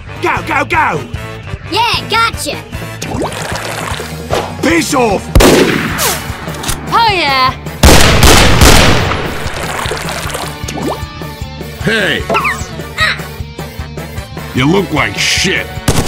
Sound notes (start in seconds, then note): 7.8 bang; 15.8 rapid fire